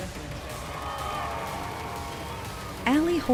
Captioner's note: cheering